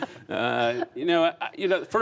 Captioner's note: speaking french; laughter